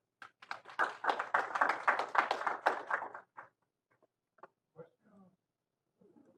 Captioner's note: applause